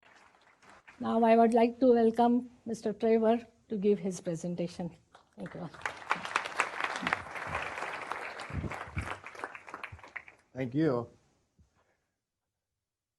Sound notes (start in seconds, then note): 5.2 applause